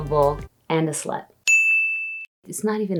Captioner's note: bell ding